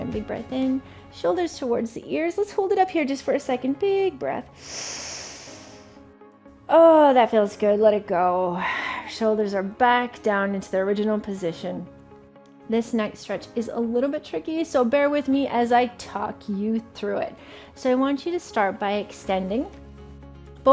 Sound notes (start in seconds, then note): 4.5 inhales deeply; 8.3 exhales deeply